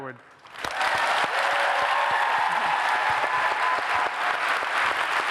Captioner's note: applause, cheers